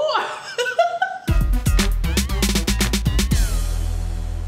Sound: laughs

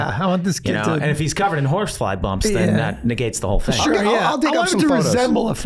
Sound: none

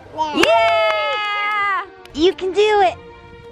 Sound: family cheers

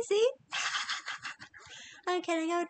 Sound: laughs

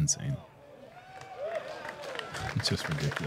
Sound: applause

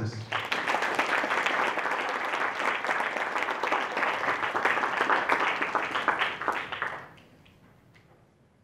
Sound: applause

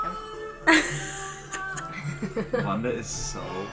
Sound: everyone laughs

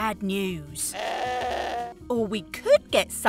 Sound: goat bleats

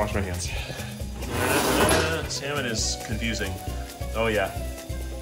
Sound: hums

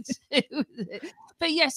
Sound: laughter

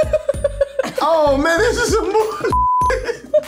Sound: laughs; beep; giggles

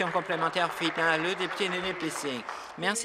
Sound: applause

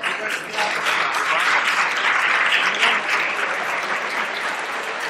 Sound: applause

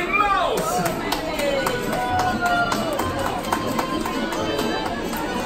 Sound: enthusiastic clapping; lively music playing

